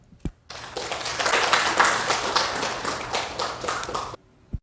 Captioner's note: audience applause